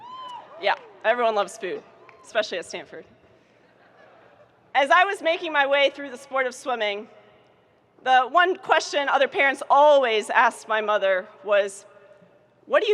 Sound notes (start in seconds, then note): 0.0 students cheering; 3.6 audience chuckling